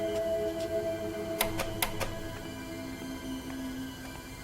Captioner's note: clicking